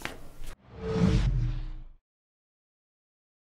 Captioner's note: whooshing